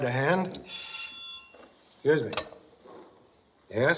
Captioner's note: rings